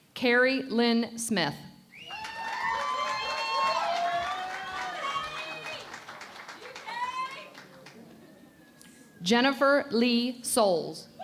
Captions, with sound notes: Kerry Lynn Smith. [ Cheering and Applause ] Jennifer Lea Soles.